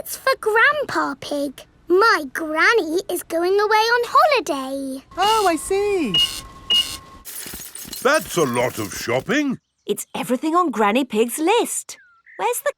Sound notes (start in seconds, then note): 5.2 cash register beeping